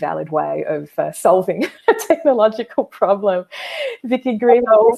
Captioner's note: laughing